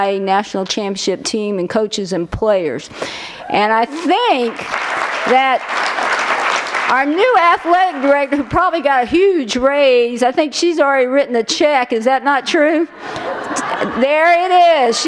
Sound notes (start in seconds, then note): 3.9 applause